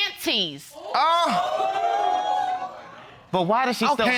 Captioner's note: audience exclaims